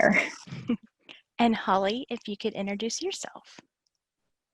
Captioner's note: laughing quietly